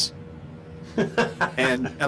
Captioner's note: laughing